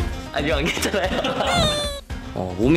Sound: sobbing

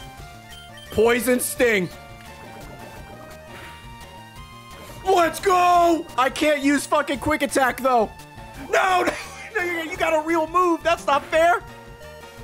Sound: laughs

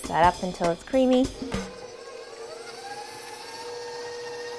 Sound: mixer running

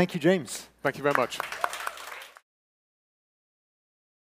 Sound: audience clapping

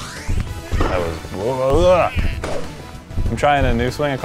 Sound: grumbles

